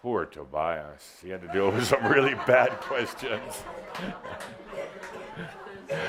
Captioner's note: Adamus chuckles